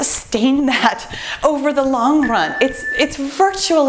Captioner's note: timer beeps